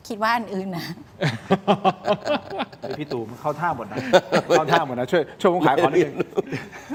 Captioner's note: laughs; laughs